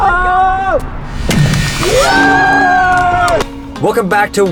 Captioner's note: yelling; cheering